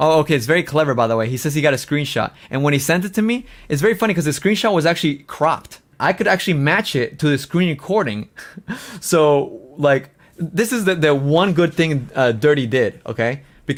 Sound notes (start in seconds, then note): 8.6 laughs